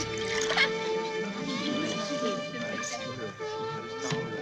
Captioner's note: Perdrys chattering